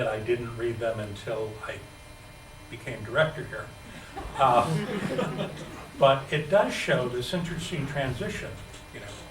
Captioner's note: laughter